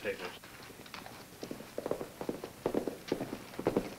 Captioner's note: hooves clomp